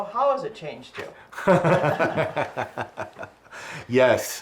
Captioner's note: laughs